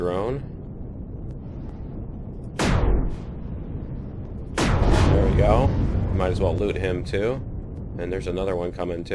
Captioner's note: explosion